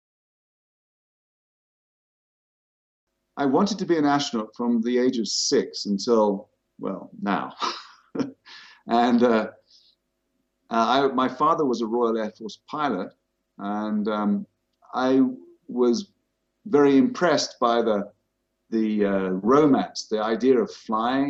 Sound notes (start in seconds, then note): 7.4 chuckles